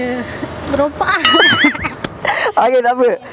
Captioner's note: laughing